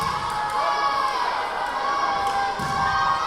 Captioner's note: yelling